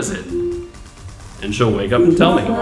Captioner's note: computer chimes; computer Voice